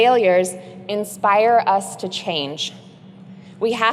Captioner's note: none